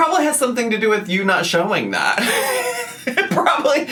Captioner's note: laughs